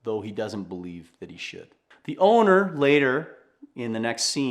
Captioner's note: none